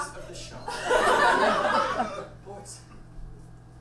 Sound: audience laughs

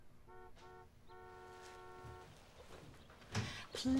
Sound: car horn honking

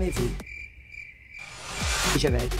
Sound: crickets chirping

